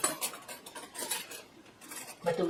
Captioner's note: clattering flatware